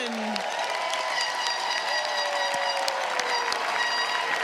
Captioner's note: crowd applauds